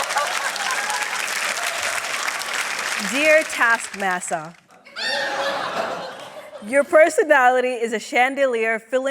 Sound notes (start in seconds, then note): 4.8 laughter